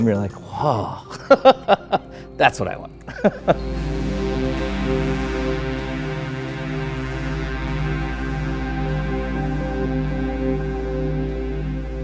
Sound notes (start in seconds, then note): 3.7 laughs